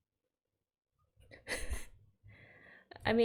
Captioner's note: laughs